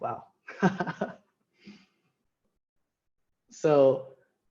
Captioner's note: laughing